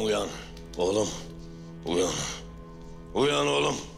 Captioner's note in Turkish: Hafifçe vurma sesleri